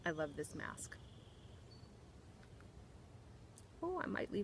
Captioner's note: birds chirping